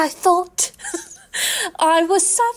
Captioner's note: laughing